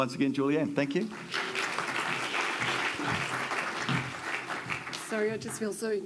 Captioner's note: audience applauds